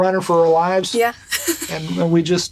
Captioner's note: chuckles